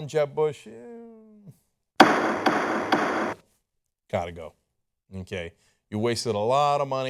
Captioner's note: gavel sound effect